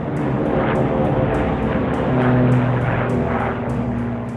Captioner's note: engines roaring